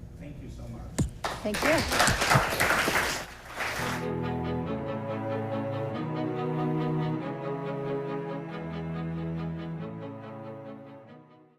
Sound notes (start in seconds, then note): 1.2 applause; 3.9 violin music